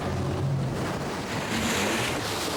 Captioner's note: boat droning; waves crashing; wind whooshing; radio vocalizing; water whooshing